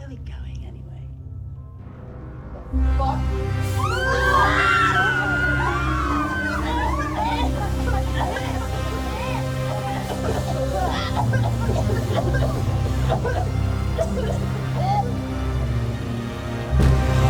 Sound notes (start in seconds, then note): 2.2 dramatic music; 3.6 all screaming; 10.1 dramatic music; 11.6 all coughing; 14.4 dramatic music